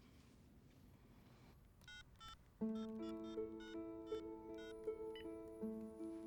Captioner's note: cell phone beeping